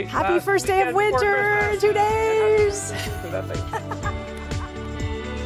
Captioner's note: indistinct chatter